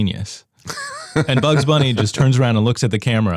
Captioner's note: laughs